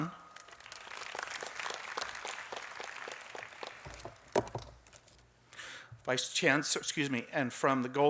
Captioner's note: applause